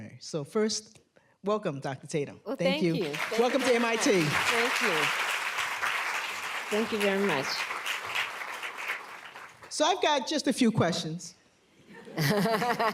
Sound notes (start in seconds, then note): 4.2 applause